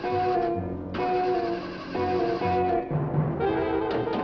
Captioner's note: engine spluttering